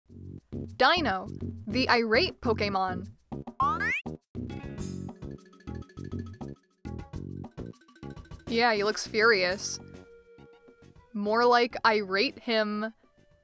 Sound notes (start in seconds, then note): 8.2 sarcastic